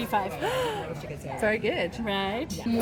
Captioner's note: gasp